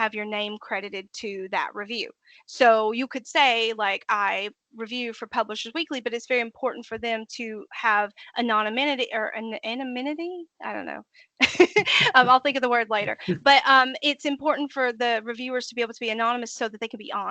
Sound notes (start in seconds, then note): 11.6 laughing